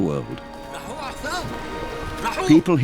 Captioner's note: sailor speaking in foreign language